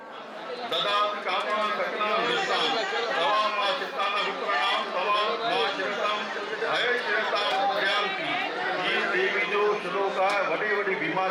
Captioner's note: announcement in another language